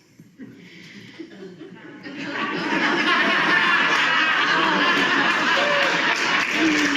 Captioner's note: audience laughing and applauding